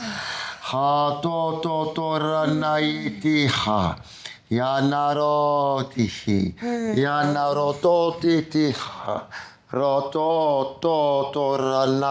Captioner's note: non-english speech